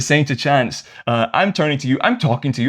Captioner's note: none